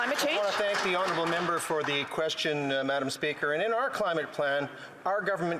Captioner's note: some Applause